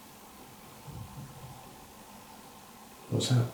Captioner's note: quick footstep noises